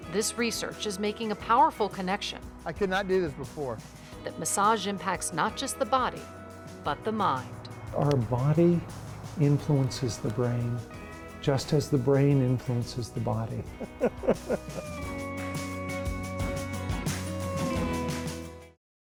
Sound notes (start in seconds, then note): 13.6 laughing